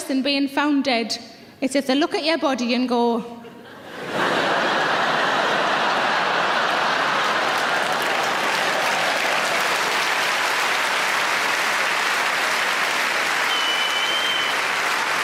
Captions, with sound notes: than being found dead it's if they look at your body and go. (audience laughing) (audience clapping)